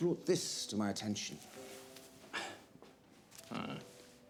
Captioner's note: Sebastian scoffs